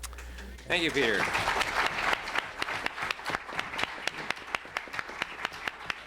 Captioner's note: applause